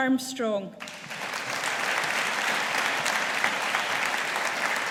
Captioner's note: audience applauding